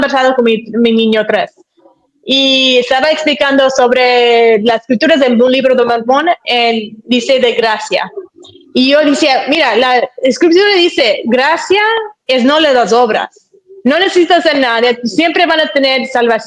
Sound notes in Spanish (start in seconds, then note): none